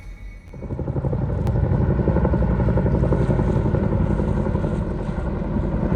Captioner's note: helicopter whirring